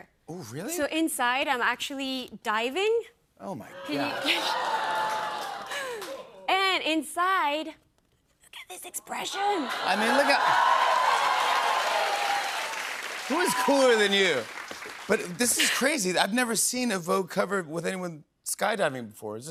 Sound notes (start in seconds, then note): 10.9 cheers and applause